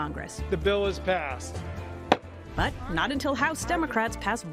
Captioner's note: sounds gavel